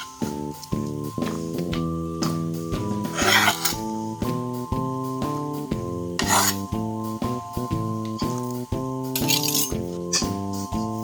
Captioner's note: meal prepping sounds